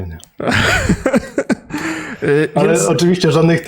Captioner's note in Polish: śmiech